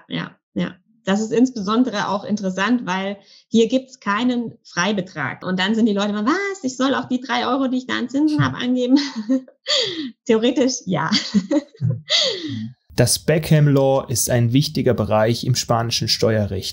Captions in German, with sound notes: Ja. Das ist insbesondere auch interessant, weil hier gibt es keinen Freibetrag, dann sagen die Leute, soll ich da auch die 3 € angeben, die ich da an Zinsen habe? (lacht) Theoretisch ja. Das Beckham Law ist ein wichtiger Bereich im spanischen Steuerrecht,